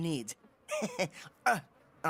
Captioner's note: Alejandro Giggles